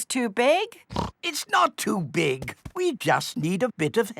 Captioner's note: snorts